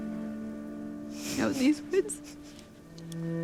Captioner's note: sobbing